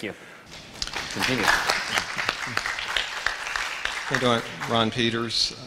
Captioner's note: applause